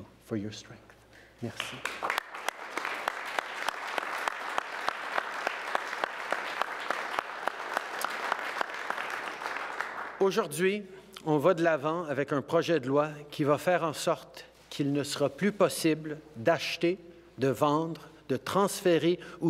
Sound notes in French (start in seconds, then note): 1.4 Applaudissements